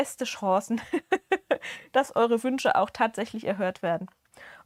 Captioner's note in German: gelächter